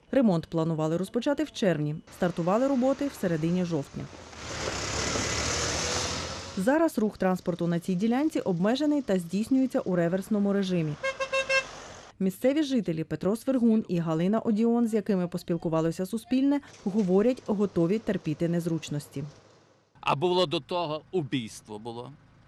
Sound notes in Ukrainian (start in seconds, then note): 4.2 працює техніка